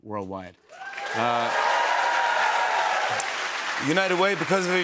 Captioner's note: cheers and applause